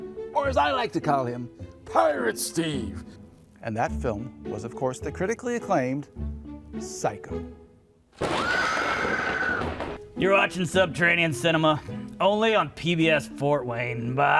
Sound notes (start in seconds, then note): 8.2 thunderclap and a scream